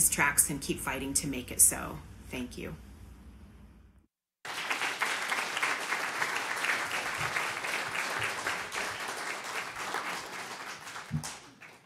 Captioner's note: applause